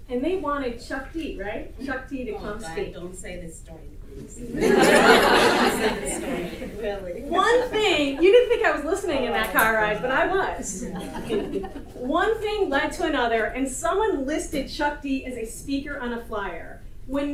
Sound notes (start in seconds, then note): 4.5 audience laughter